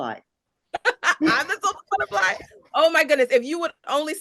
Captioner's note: laughs